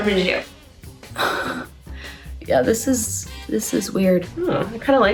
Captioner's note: gasps